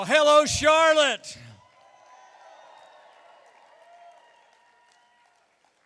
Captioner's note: cheering